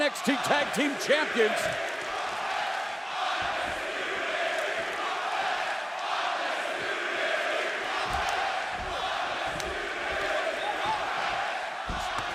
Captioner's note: crowd cheering